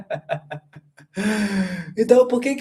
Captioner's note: laughter; sighing